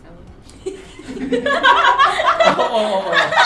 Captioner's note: laughs